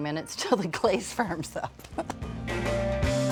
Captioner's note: laughing